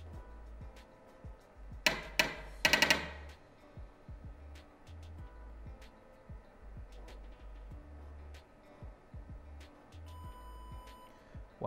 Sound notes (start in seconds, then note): 1.8 osmometer knocks; 3.7 gentle music; 10.0 osmometer beeps